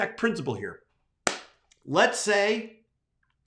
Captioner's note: claps